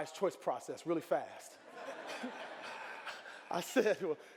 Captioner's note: audience laughing